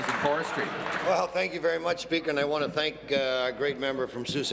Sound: applause

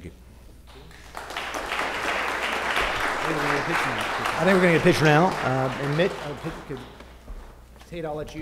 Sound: applause

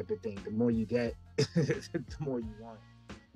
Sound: chuckles

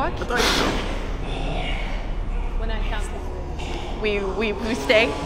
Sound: heavy breathing

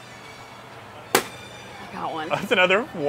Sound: balloon popping

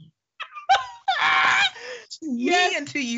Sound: laughing

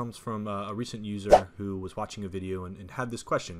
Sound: whooshing

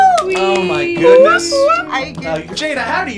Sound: cheering

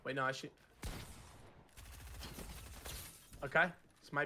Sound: gun firing loudly

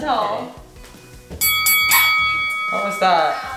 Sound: fighting bell rings

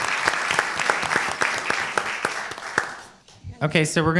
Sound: applause

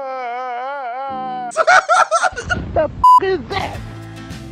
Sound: crying

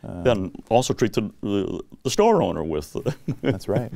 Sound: laughs

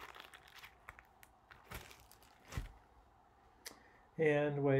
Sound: plastic crinkling

